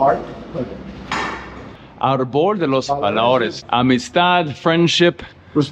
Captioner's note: speaking Spanish